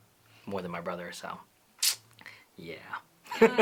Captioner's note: laughter